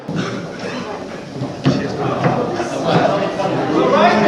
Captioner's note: crowd murmuring